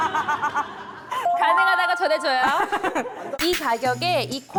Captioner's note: applied sound effect